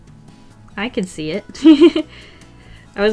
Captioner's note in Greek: Γέλια